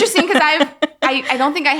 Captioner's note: laughing